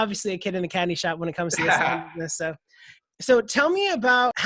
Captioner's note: laughs